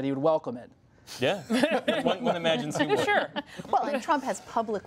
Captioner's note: laughter